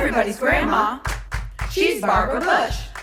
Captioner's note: clap clap clap